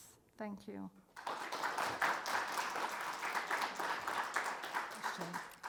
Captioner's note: audience clapping